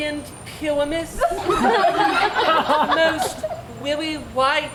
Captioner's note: audience laughs